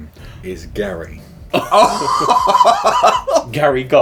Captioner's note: laughing